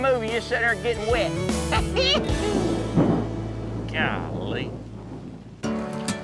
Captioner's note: thunderclap